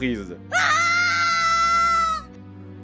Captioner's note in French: aaaahhhhh!!!!!!!!!